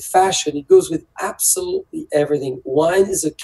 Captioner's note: speaks French